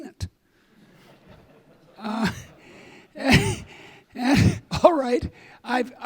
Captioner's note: audience laughing